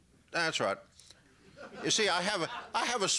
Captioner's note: laughter